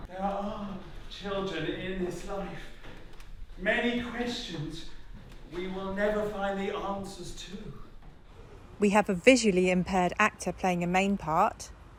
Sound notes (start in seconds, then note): none